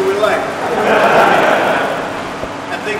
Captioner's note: laughter